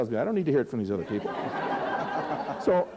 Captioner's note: laughter